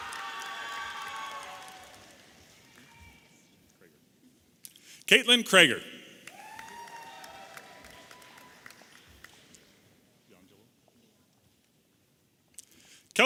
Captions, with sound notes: (audience applauding and cheering) Kathlynne Creger. (audience applauding and cheering)